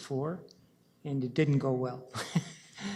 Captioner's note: chuckles